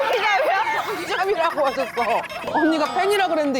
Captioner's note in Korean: 멈추지 않는 웃음